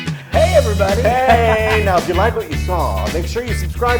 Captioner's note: laugh